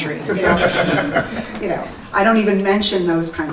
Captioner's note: audience laughing